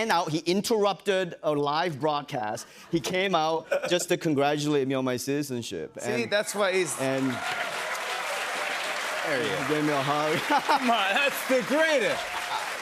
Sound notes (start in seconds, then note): 6.2 cheers and applause; 10.2 laughs